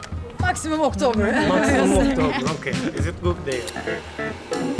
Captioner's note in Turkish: Gülüşmeler